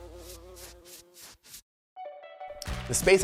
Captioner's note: bee buzzing; screen whooshing